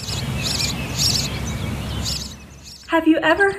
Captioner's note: birds chirping